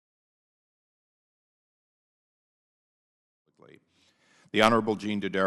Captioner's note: silence